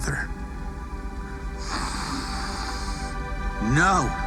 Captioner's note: inhales deeply